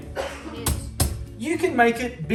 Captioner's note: hitting pasta